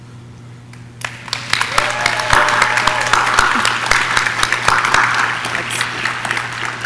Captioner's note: audience clapping; audience cheering